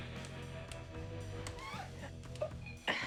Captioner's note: squeak